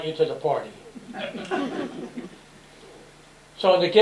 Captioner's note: laughter